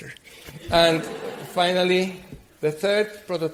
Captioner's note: audience laughs